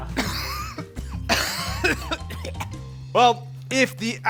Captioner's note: coughs